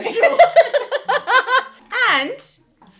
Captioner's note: laughing